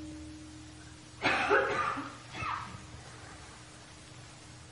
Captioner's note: coughing